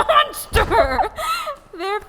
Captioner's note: laughs